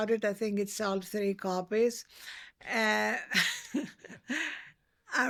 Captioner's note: laughs